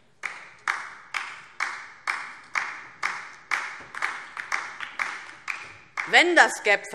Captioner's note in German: Beifall DIE LINKE